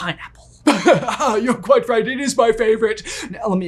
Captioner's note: chuckles